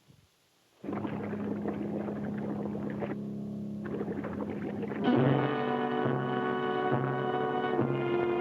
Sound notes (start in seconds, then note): 0.8 water bubbles; 5.0 dramatic music